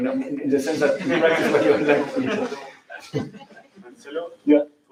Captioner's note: laughter